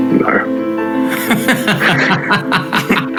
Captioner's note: all laughing; laughs